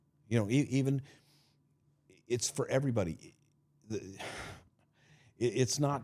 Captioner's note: sighing